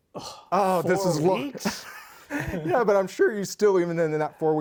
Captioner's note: laughs